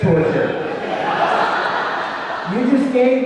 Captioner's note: audience laughing